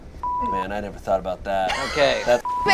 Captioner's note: beep